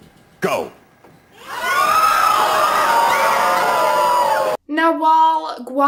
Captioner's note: crowd Screaming in Disgust